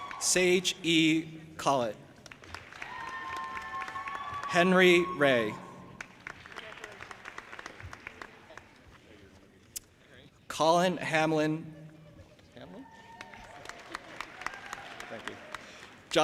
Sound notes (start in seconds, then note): 0.0 audience applauding and cheering; 2.2 audience applauding and cheering; 5.8 audience applauding